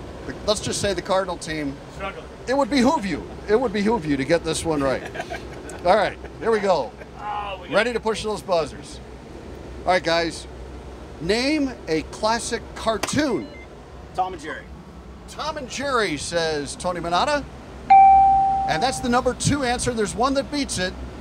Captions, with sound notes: Let's just say the cardinal team it would behoove you to get this one right. All right here we go. Ready to push those buzzers. All right guys Name a classic cartoon. Tom and Jerry. Tom and Jerry says Tony Minatta. [Bell] And that's the number 2 answer. There's one that beats it.